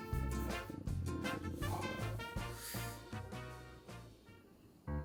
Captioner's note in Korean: 앗.. 꼬르륵 소리가..!